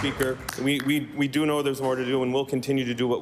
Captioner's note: applause